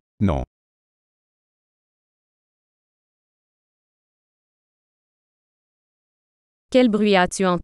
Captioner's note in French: silence